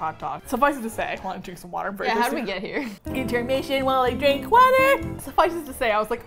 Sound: singsong

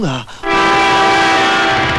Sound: horn blares

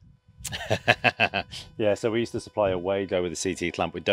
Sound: chuckling

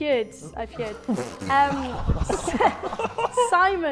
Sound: Sidemen laughing

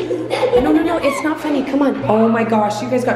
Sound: giggles

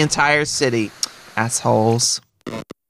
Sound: smacks lips

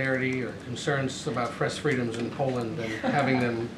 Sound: laughter

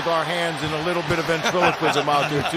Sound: laughter

